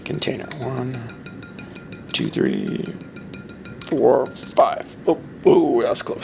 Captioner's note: man tapping container